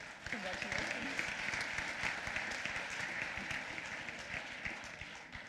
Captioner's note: applause